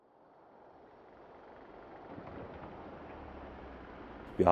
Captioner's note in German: Wind und Baugeräusche